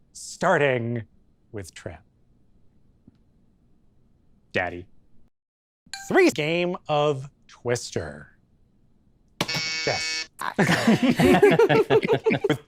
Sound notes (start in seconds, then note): 9.4 buzzer; 10.6 everyone laughs